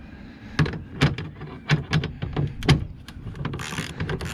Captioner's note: wrench clicking